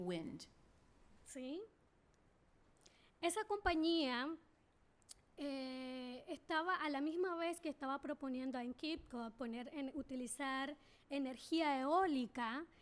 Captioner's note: speaking spanish